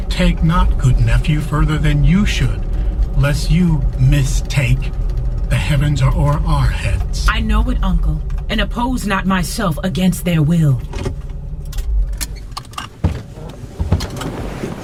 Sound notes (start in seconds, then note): 11.8 engine off